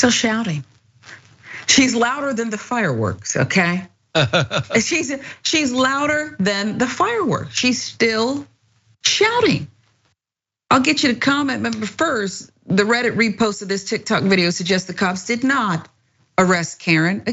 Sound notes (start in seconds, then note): 4.1 laugh